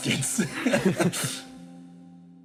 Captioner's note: both Laugh